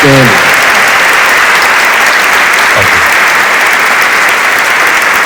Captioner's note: audience cheering